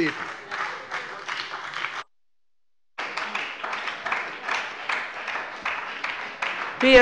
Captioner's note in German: Beifall bei der FDP und der SPD